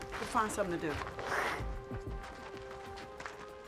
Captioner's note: hisses